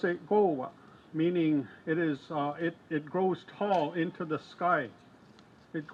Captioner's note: speaks in foreign language